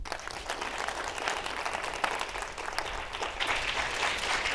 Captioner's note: audience clapping